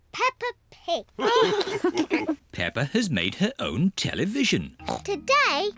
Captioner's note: all laugh